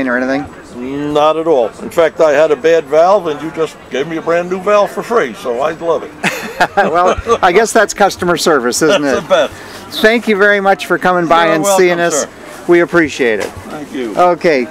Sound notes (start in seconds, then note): 6.2 laughing